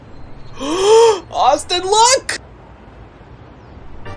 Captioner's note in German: Keuch